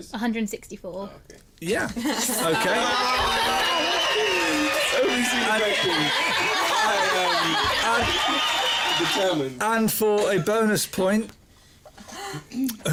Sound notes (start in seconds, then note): 3.5 cheers; 6.9 laughter